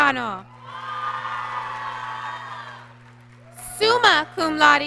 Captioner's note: applause